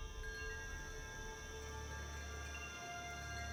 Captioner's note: wind chimes